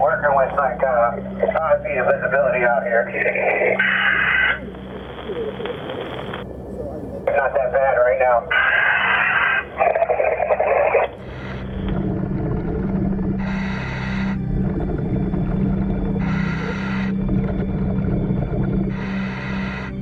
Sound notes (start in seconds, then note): 8.7 suspenseful music; 8.7 underwater breathing